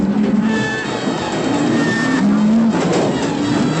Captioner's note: thunder